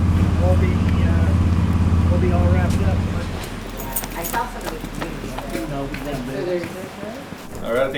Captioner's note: voices murmuring in conversation